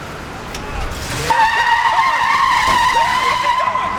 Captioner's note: tires screeching